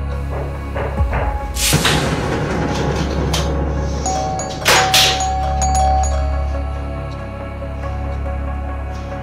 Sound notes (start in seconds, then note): 0.0 banging; 4.0 doorbell rings